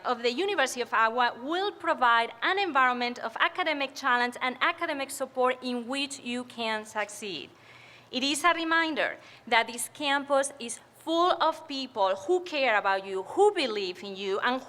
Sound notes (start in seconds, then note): none